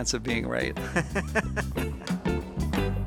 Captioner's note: laughing; upbeat music continues